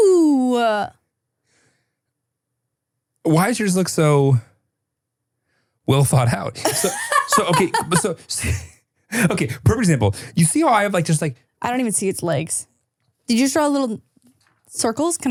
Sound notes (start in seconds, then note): 6.6 laughs